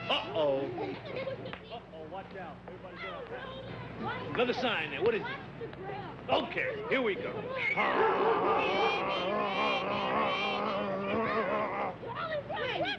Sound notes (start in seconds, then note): 0.5 children shouting; 7.8 Sam grunting; 7.8 dog barking